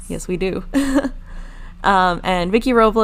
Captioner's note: laughing